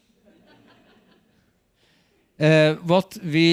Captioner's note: audience laughs